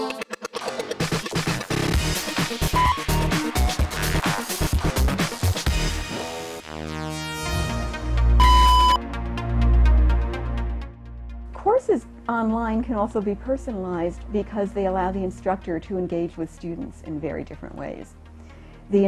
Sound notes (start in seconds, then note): 1.8 upbeat music; 8.4 beep